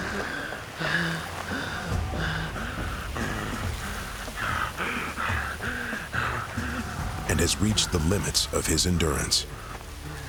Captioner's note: panting heavily